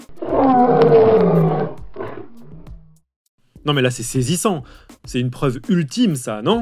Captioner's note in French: Rugissement